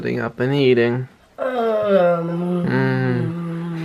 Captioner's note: groaning; chuckles